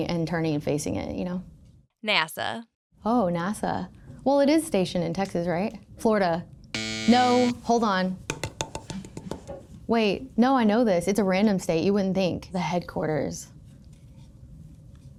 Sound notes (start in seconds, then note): 6.7 klaxon buzzes; 8.3 paddle tapping